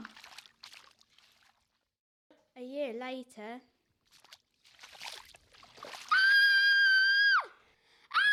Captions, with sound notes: A year later. [screams]